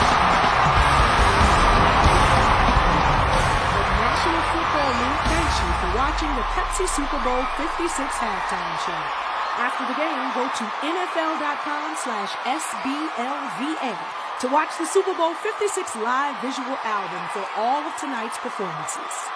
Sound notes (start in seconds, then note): 0.0 applause